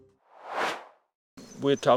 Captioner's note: air swooshes